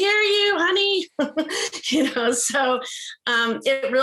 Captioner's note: laughs